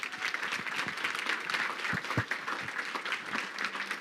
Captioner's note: crowd clapping